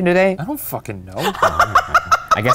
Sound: laughing

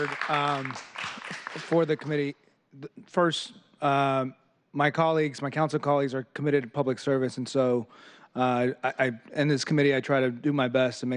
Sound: applause

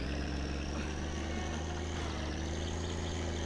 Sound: chuckles

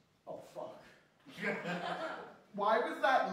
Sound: laughter

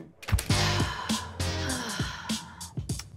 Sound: sighs

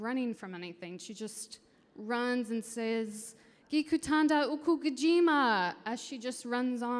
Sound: speaking in foreign language

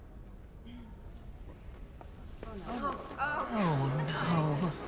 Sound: audience murmuring

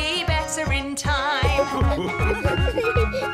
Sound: laughter

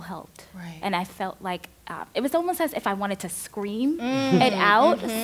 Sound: laughs

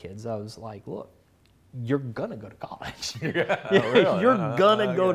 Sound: laughs

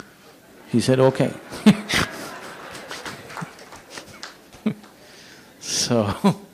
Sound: laughter/Applause; laughs

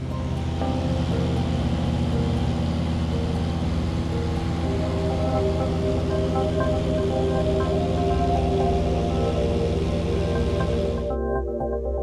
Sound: airplane flying over

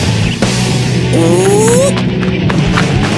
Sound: screaming angrily

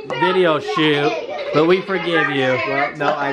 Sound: kids chattering

